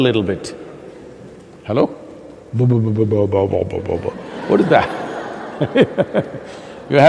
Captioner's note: laughter